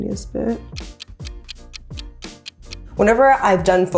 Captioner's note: ticking